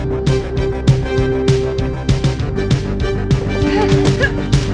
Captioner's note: screaming